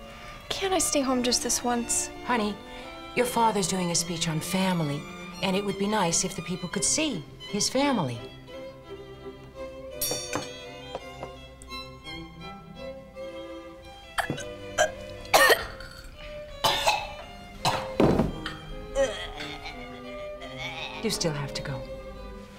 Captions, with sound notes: CAN'T I STAY HOME JUST THIS ONCE ? HONEY, YOUR FATHER'S DOING A SPEECH ON FAMILY, AND IT WOULD BE NICE IF THE PEOPLE COULD SEE HIS FAMILY. [ Choking ] YOU STILL HAVE TO GO.